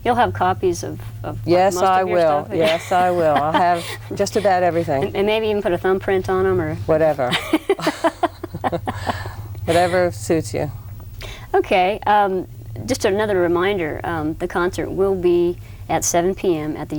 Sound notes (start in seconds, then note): 7.3 laugh